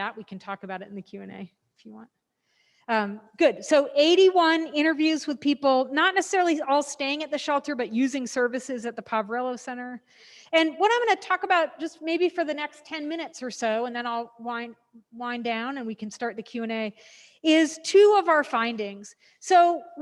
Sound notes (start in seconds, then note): none